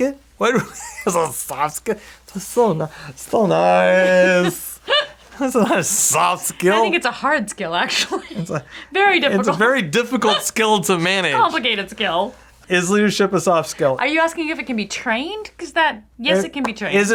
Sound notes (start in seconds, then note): 0.1 laughing; 4.0 laughing